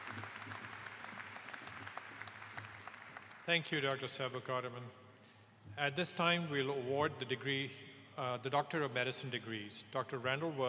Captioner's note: applause